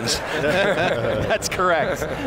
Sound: laughing

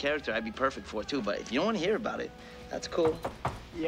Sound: knock On Door

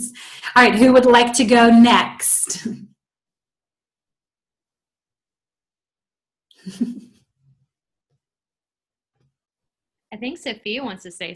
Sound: following with Laughter

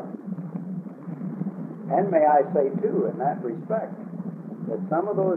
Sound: laughs

